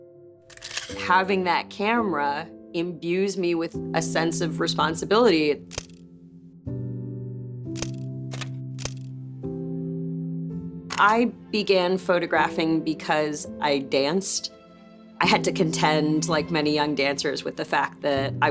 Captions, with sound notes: Having that camera imbues me with a sense of responsibility. (camera shutter clicking) (gentle music) I began photographing because I danced. I had to contend, like many young dancers, with the fact that